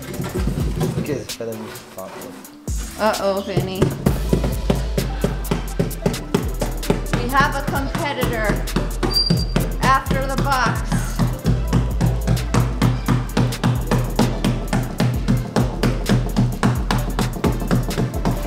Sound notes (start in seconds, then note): 3.5 hand tapping; 11.6 hand tapping